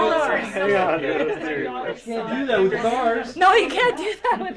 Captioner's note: laughs